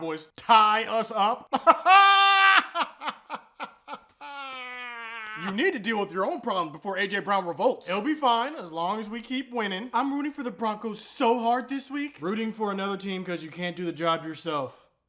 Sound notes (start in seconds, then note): 1.4 weird laughing again